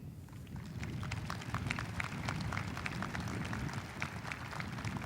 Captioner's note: audience applauding